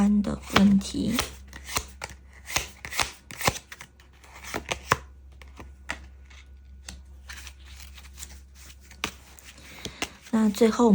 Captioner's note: shuffle cards